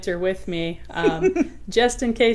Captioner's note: woman laughing